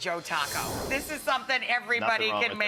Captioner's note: animation whooshing